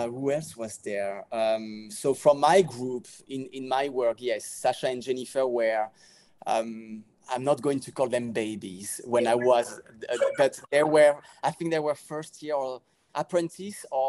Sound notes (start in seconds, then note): 10.0 laughing